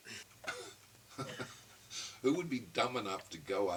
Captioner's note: chuckling